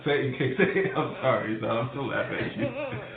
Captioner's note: child whines